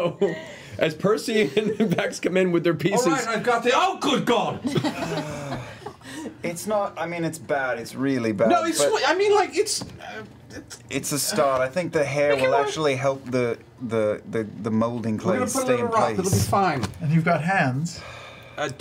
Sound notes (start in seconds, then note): 4.6 laughs